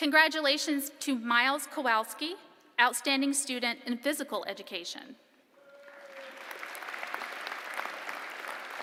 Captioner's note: applause